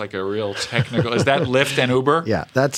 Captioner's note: laughter